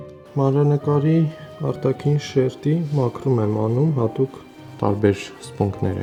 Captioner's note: speaking in foreign language